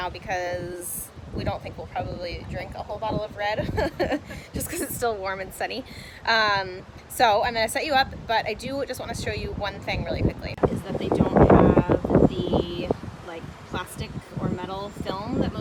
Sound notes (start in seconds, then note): 3.6 laughing